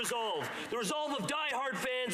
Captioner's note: applause